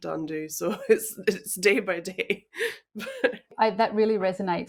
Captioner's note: laughs